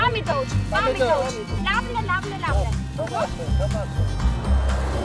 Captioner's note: in Armenian; in Armenian